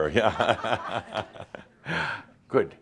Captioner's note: chuckles